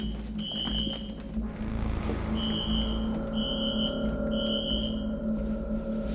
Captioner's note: alarm screeching continues